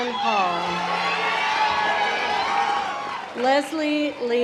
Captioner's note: audience applause